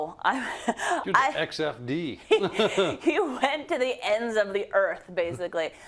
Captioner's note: laugh; laugh